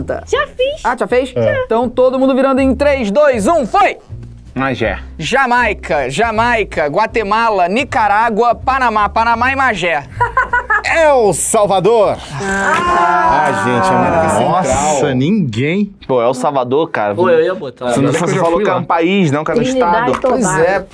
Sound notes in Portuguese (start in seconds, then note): 10.0 risadas